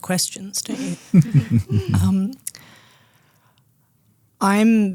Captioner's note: group laughing